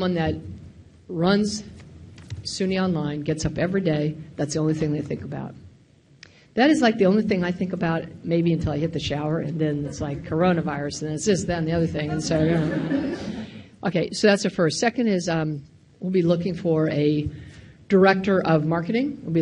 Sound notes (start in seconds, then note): 12.1 audience laughing